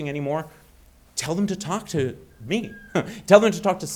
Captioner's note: chuckling